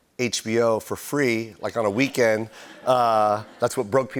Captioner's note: laughter